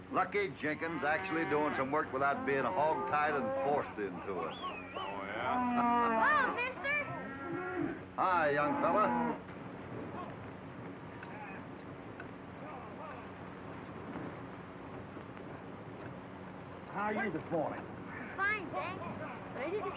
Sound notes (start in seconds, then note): 3.9 Hoppy laughs; 9.6 cattle lowing; 11.2 men yelling